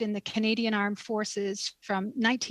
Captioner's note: speaking French